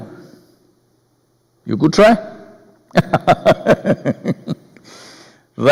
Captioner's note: laughs